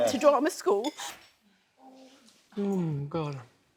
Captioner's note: cries